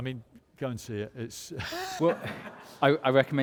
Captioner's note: laughs